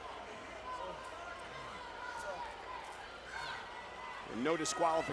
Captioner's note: crowd shouting